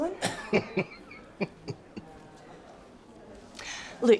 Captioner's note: laughing